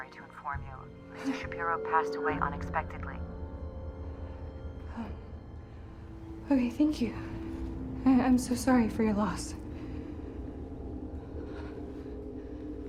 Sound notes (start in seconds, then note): 5.8 ominous music; 11.5 Jackie pants; 12.0 ominous music